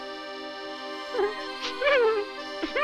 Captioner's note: sobbing